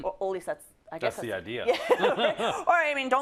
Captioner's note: laugh